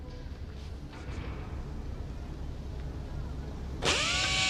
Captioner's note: tool whirring